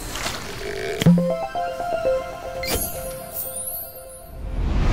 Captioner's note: playful chime